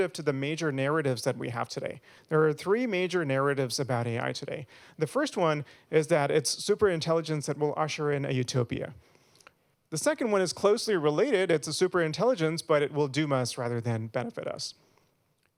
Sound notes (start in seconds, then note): none